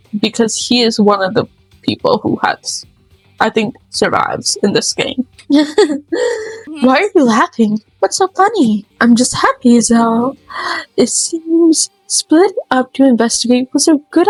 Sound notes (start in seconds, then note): 5.5 laugh